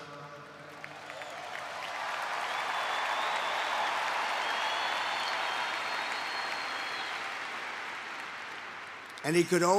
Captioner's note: applause